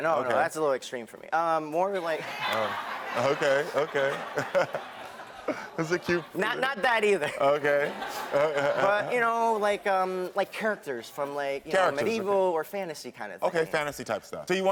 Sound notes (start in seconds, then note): 2.3 audience laugh; 5.9 laughs